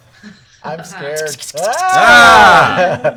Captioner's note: clicking pincers